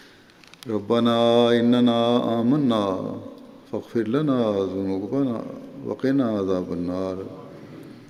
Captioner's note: Arabic